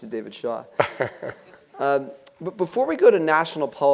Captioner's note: laugh